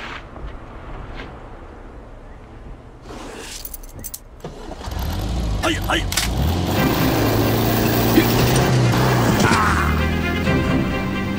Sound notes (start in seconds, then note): 3.4 keys sound; 4.3 engine starts; 6.0 loading gun sound